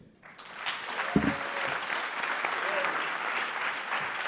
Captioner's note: audience clapping